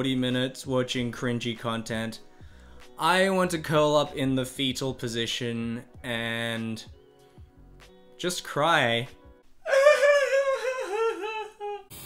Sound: weird cry

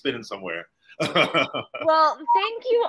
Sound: laughing

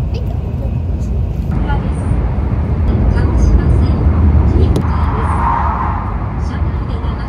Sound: overhead train announcement in Japanese

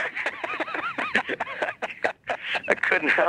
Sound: both laughing

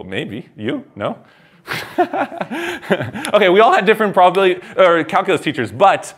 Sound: laughs

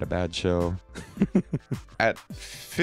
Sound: Conrad laughing

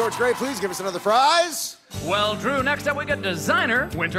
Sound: cheers and applause

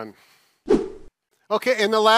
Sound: whooshing sound

